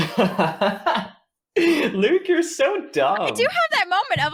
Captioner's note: laughing